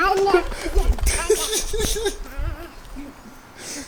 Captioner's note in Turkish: Gülüşmeler